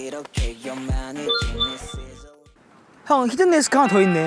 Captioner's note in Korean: 띠링